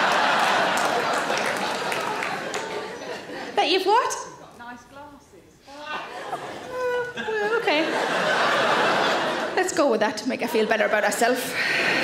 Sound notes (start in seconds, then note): 0.0 audience claps; 6.1 audience chuckles; 8.7 audience laughs; 11.8 audience laughs